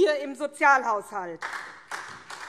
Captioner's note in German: Beifall SPD